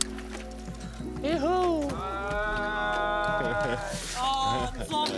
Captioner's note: cheering